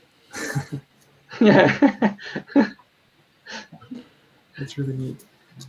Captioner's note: laughing